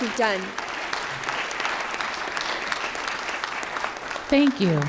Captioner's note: applause